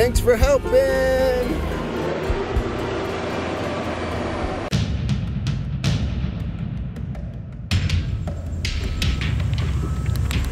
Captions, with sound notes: - Thanks for helping. (machinery motoring) (dramatic music)